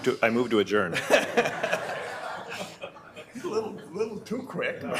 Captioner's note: board members laughing